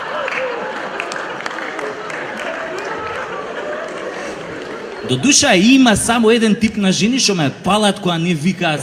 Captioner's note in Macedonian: аплауз